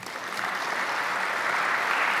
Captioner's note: applause